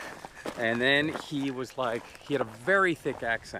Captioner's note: laughs